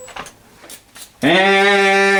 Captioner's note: whirring; bristles brushing